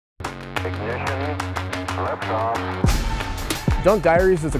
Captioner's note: computerized Voice